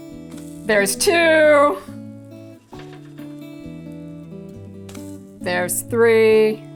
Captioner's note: pancake softly sizzling